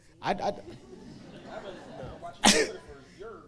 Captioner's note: audience laughing